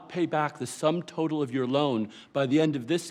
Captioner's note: none